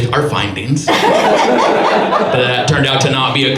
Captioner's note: audience laughs